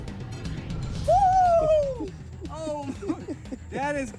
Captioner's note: shrieks